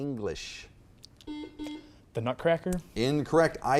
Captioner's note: buzzer beeps